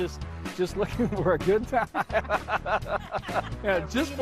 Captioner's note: laughs